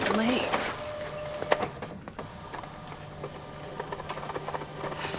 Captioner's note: fax machine printing